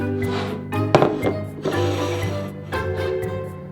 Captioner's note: bowl sliding